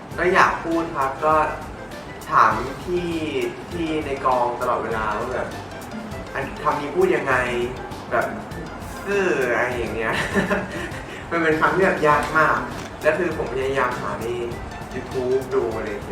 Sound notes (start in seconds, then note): 9.9 laughs